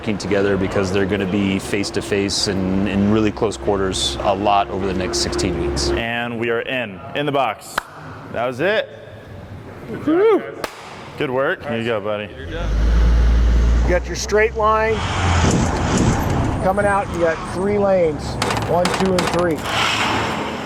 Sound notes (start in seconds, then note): 7.7 hands clap; 15.6 ambulance engine roars